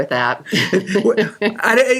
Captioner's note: laughing